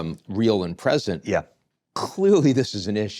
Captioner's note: laughing